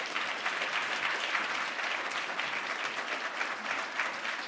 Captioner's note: audience applause